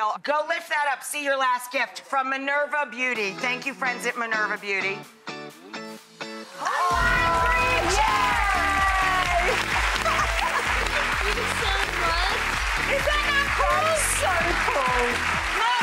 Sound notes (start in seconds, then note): 4.8 upbeat music; 6.4 audience cheering and clappinp